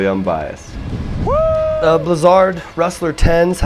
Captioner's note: screaming in excitement